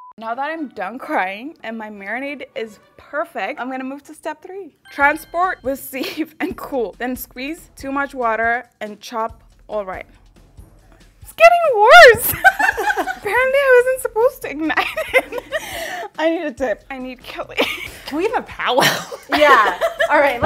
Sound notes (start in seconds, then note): 12.0 laughing